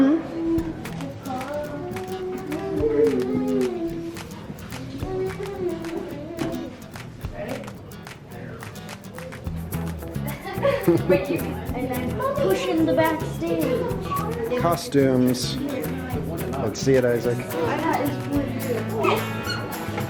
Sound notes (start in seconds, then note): 1.6 bright music; 10.2 family laughs